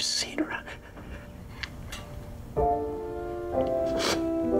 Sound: sniffling softly

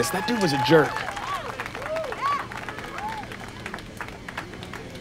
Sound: applause continues

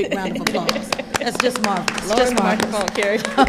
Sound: audience applauding

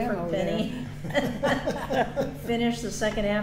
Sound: all laughing

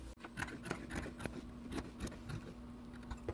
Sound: snipping

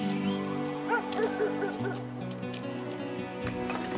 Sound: dog barking

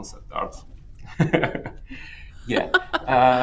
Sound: laughs

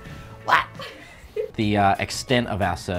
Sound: girl laughs

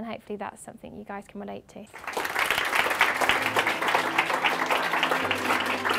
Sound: clapping

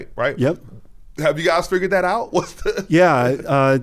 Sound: laughs

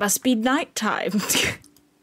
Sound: laugh

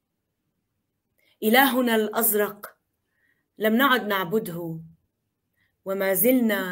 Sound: speaking in foreign language

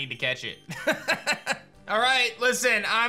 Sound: laughs

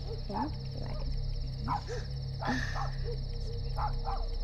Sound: dogs barking from a distance

